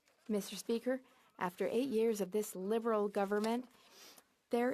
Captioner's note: speaking French